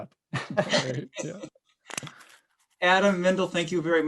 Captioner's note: laughing